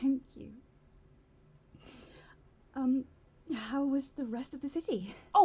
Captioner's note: sniffs